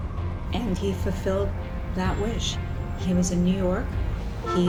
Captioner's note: traffic noises